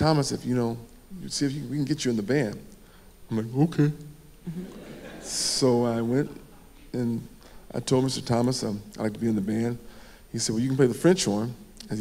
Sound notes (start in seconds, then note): 4.5 audience laughing